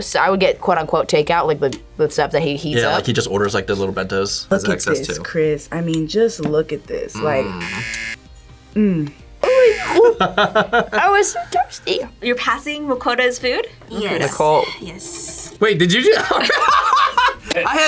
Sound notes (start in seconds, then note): 7.4 buzzer; 9.4 laughs; 16.1 laughs